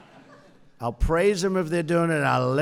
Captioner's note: laughter